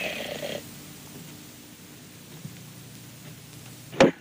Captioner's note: loud bang